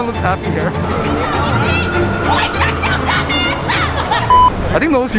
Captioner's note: angry screaming